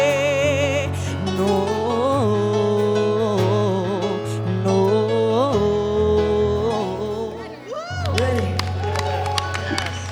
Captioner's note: hums the tune; jury applauds and cheers